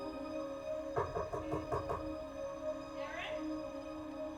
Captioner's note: knocking